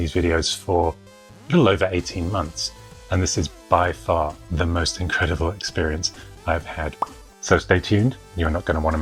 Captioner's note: pop